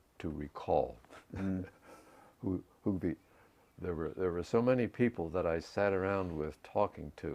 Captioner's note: laugh